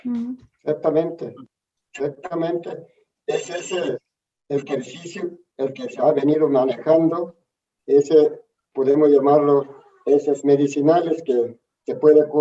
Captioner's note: answers in Spanish